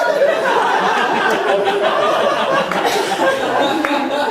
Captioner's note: audience laughing